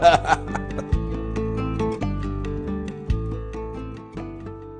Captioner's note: laughs